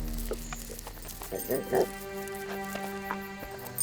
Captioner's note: grunting; grunting